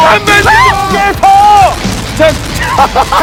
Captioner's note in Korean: 꺄악